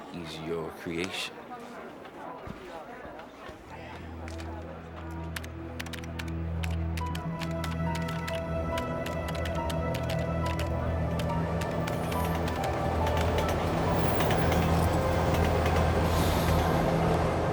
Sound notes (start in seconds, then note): 5.7 keyboard clacking; 8.0 sinister music; 12.0 train rattling